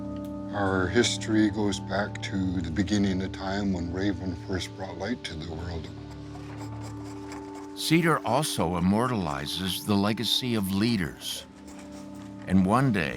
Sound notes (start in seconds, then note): 5.4 scraping wood